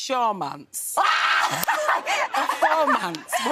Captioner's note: laughing